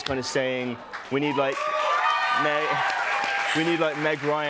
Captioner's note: cheers and applause